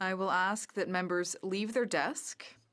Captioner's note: speaking french